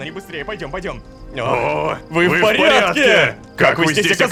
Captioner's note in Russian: хором